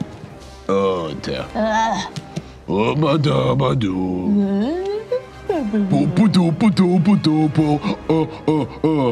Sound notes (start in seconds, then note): 6.3 grunting